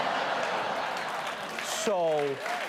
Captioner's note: laughter; applause